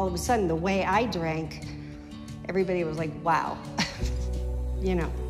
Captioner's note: laughs